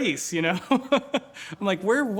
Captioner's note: laughs